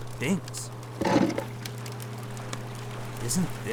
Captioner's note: clutter crashes